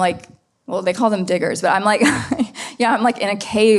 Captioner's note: laughs